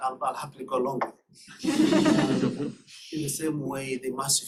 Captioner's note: laughter